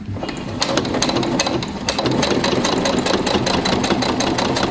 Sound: machine whirring

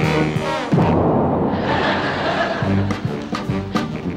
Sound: tuba booming; audience laughing

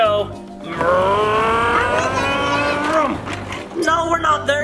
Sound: car revving

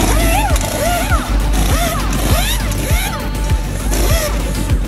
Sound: impact wrench whirring

